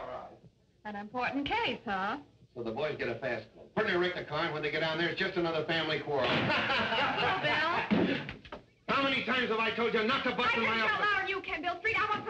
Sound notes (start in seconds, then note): 6.2 laughter